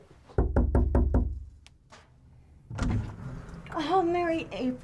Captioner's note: door knocking